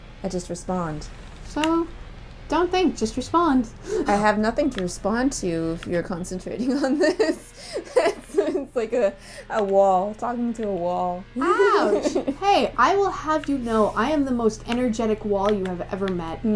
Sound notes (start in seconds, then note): 6.7 laughing